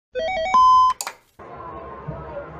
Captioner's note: clicking; chattering; clicking